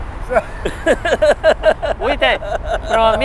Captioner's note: laugh